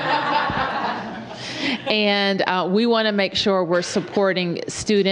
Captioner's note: laughter